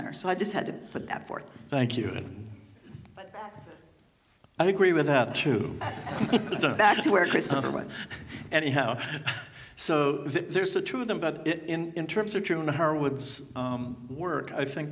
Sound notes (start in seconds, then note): 5.5 chuckles